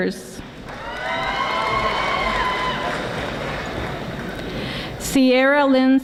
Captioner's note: audience applauding